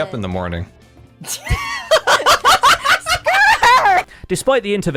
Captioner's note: startled laughter